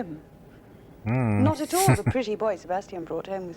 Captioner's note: chuckling